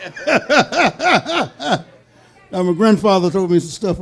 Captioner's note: laughing; audience laughing